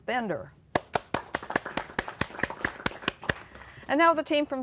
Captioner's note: applause